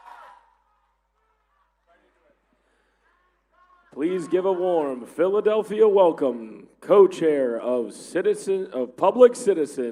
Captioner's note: applause